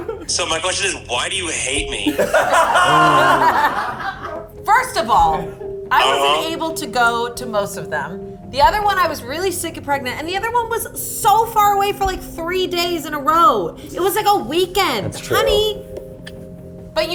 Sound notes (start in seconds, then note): 2.0 all laughing